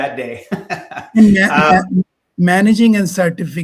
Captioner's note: laughing